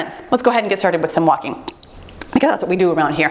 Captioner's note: timer beeps